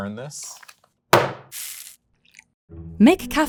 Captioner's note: can thudding and coffee pouring